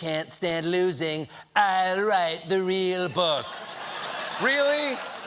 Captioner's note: laughter